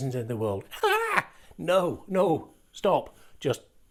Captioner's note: screams